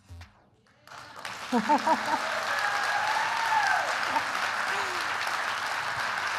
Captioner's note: applause